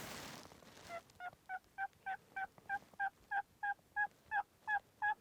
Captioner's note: turkey calling again